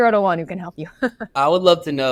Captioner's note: laughs